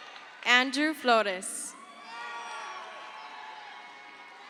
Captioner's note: crowd cheers